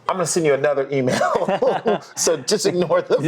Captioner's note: both laughing